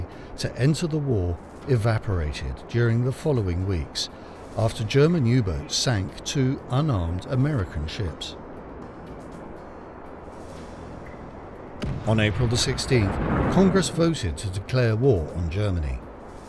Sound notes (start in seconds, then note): 11.8 explosion booms